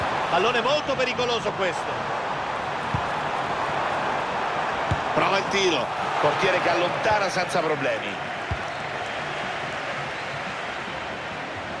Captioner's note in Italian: Applauso